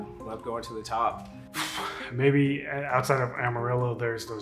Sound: sighs

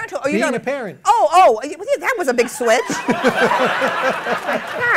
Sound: laughter

